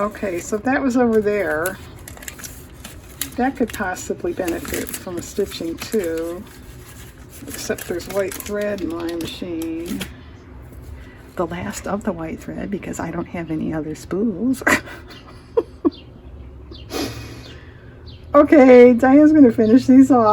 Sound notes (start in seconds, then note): 17.6 laughs